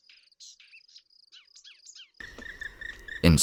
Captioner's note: śpiew ptaków, szum wiatru